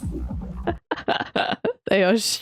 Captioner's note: laughs